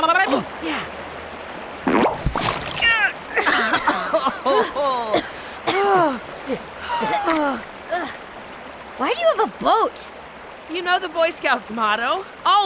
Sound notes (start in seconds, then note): 3.3 both coughing; 6.8 sighs with relief